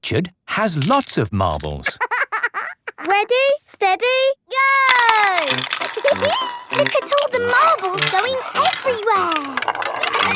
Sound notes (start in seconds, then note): 1.8 laughing; 6.2 laughing